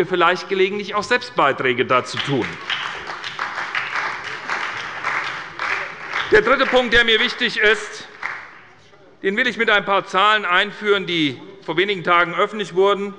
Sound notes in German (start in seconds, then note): 2.1 Beifall bei übernimmt den Vorsitz